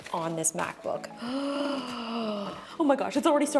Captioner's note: Justine gasping